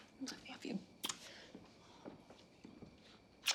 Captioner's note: kisses; kisses